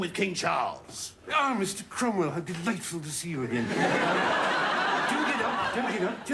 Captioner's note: prince charles accent